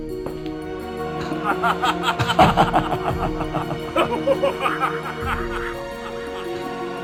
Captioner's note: mocking laughter